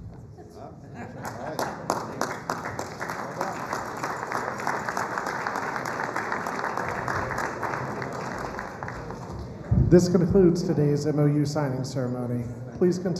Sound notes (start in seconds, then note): 1.2 applause